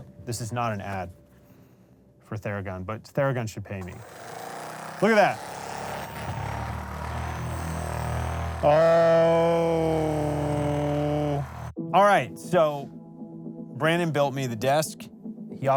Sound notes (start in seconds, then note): 6.2 theragun buzzing